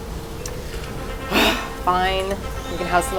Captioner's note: sigh